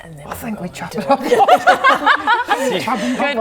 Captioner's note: laughing